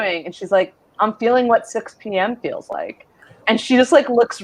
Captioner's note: none